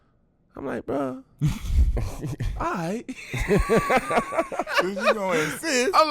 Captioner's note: laughs